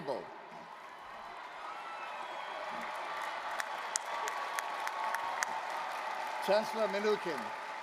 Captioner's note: applause, cheering